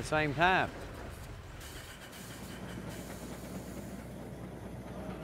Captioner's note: steam engine running